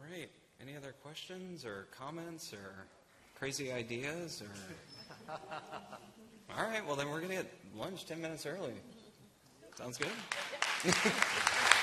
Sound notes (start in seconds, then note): 6.7 laughter